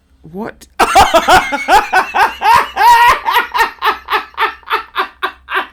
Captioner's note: laughing